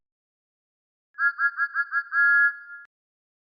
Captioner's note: Thomas Whistles